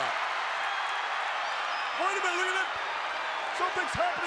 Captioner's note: applause